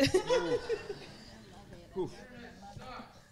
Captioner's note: audience laughing